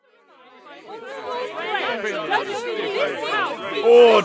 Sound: general hubub of arguing politicians

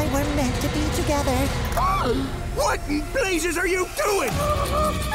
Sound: shrieking

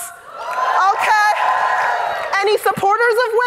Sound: audience cheering

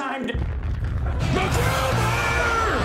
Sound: bomb exploding

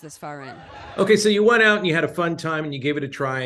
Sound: laughter

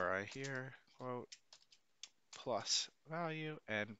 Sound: keyboard clicking

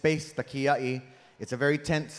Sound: speaking in Hawaiian

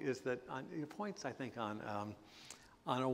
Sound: none

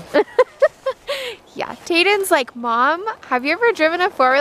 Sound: laughing

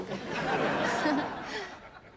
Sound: chuckles

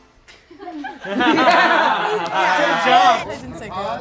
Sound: all laugh

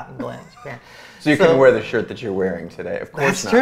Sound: laughs

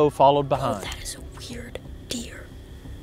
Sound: whispering

